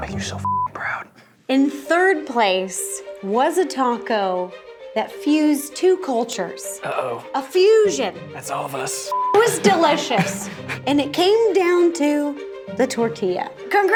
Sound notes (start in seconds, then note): 0.2 beep; 9.1 beep